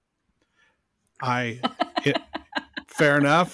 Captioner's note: laughs